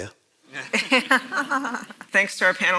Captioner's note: panel laughs